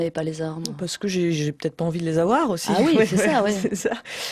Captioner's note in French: rires